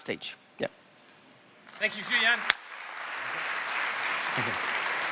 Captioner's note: applause